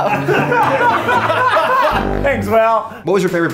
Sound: laughter

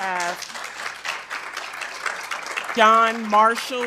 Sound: attendees applauding

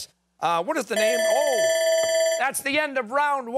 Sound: timer

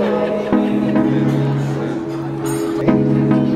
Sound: crowd murmurs

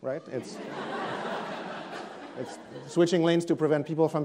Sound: audience laughs

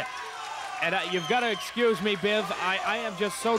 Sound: crowd yelling, cheering

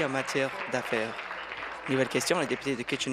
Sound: applause

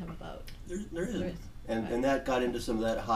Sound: voiceover

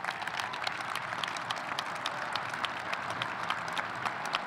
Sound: audience applauding

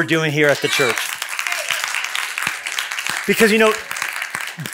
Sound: applause

